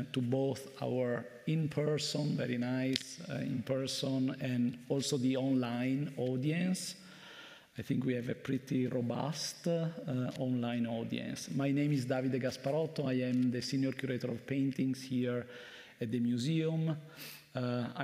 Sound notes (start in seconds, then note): none